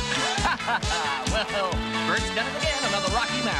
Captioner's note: Диктор смеется